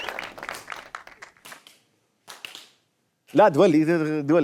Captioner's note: mockingly clapping